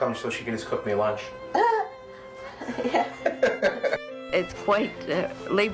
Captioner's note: laughs